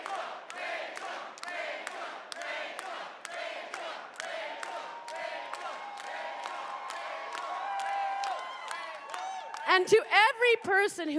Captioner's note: chanting rachel